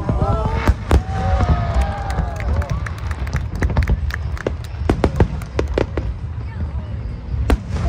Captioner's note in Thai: ปรบมือ; ปรบมือ